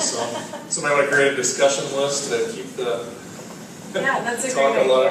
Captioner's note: laugh